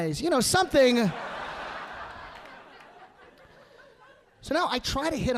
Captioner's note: audience laughing